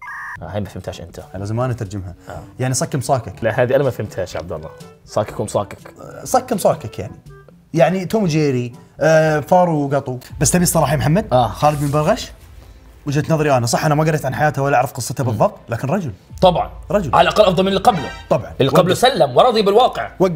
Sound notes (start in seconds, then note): none